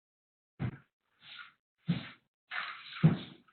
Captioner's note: thudding